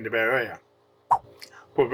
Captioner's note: swipe Sound